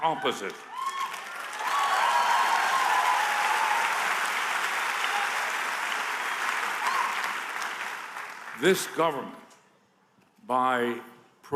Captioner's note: applause